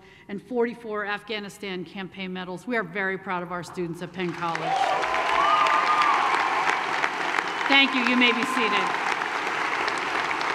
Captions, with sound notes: and 44 Afghanistan campaign medals. We are very proud of our students at Penn College. (applause) Thank you, you may be seated.